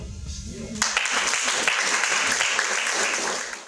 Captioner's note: hearty audience applause